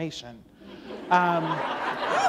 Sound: laughter

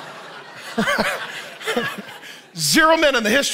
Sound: laughs

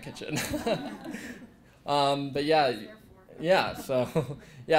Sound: laugh; laugh

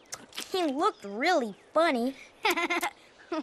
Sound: munches; giggles

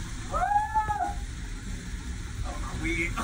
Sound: rider exclaims

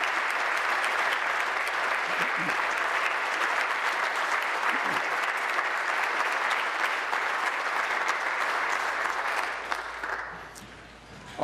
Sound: applause

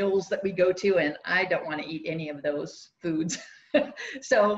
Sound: laughs

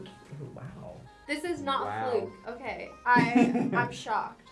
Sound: laughs

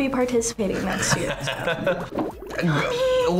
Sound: laughs

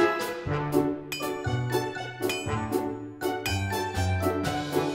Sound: digger clings

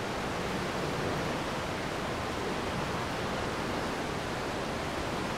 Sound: water rushing

